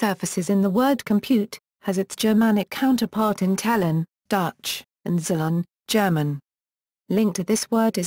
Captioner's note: German